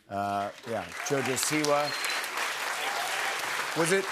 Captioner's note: applause